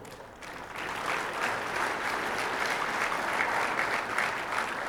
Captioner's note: audience applauding